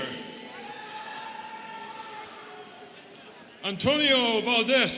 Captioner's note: students cheering